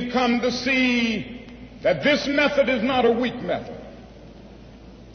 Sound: none

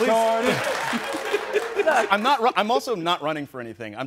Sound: Charlamagne laughs

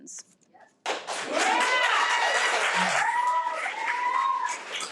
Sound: audience applauding

